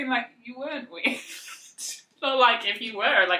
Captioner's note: laughs